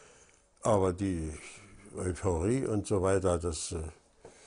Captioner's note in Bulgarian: Аудио на немски